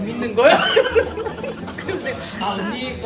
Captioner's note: laugh